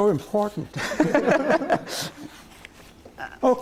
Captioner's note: laughter